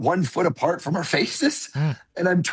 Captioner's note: chuckles